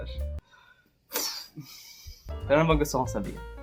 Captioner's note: weird exhale